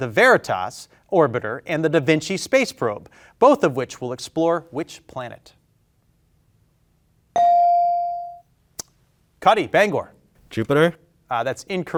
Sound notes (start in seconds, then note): 7.3 bell ringing